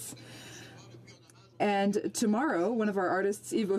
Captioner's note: speaking French